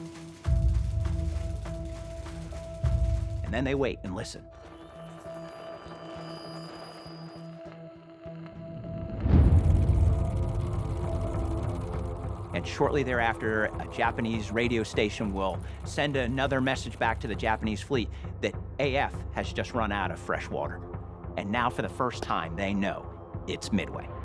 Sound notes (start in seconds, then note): 9.3 telegraph chattering